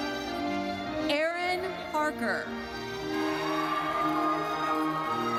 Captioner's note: audience cheers